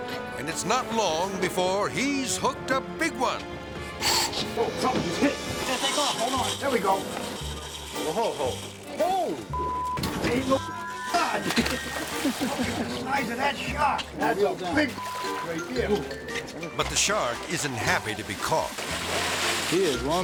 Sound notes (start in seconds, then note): 0.0 harmonic music; 3.9 reel cranking; 5.6 reel spinning; 9.5 beep; 11.2 water splashing; 14.9 beep; 18.6 water splashing